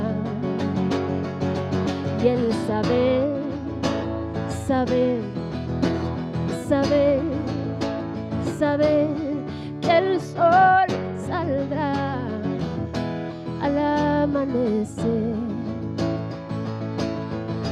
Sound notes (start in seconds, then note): none